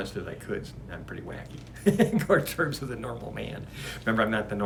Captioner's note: laughs